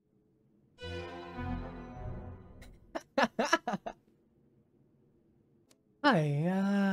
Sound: laughing

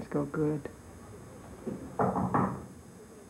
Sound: knocking

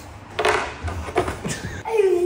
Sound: chess piece clatters

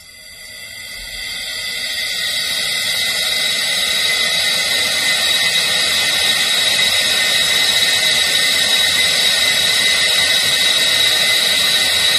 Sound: pipe noise

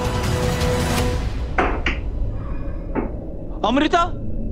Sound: lid clanks

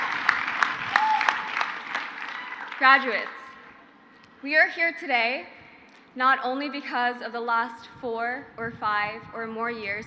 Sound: crowd cheers

